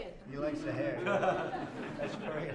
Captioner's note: laughter